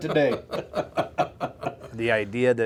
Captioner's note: laughter